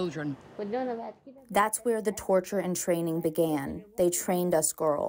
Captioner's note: through translator